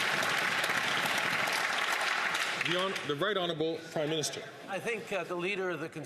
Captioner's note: some Applause